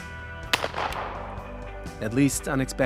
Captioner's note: shotgun banging